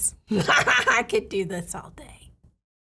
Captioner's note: laughing